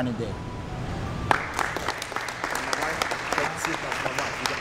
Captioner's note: applause